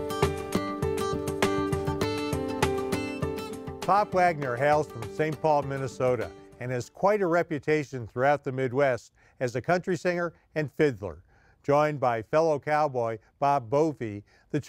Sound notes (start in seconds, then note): 0.0 gentle music; 3.8 voiceover